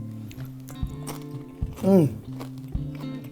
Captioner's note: crunching